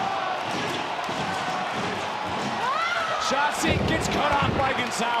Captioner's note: crowd cheering